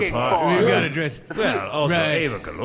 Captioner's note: they all mumble in agreement